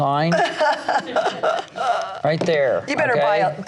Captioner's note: laughs